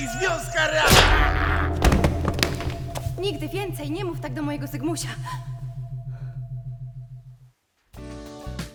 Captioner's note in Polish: dźwięk uderzenia